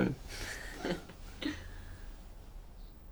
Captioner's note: both chuckle